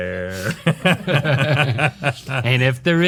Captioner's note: laughing